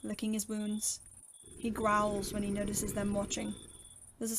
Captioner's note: growl